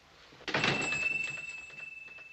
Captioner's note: door bells chiming